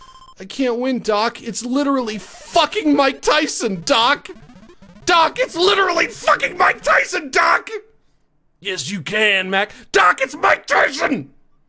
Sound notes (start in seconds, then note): 8.1 gravelly voice; 9.8 normal voice